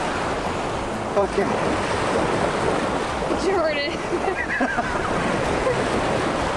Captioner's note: laughs